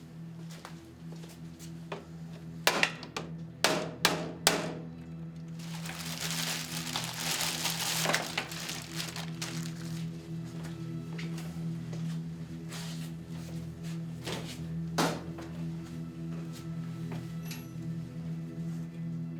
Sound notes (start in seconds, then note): 4.0 hammering